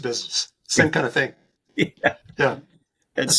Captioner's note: chuckles